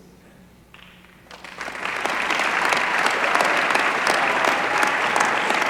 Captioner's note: applause